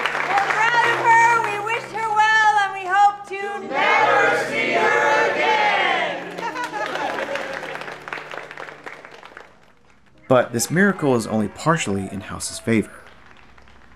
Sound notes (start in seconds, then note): 6.0 applause